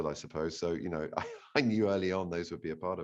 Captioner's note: laughs